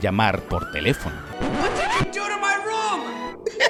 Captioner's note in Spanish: Buzz